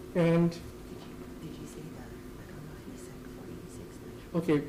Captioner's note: women conversing quietly